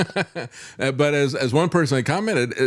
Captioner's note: laughing